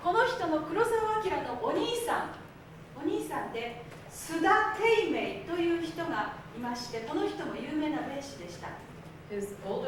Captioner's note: speaking Japanes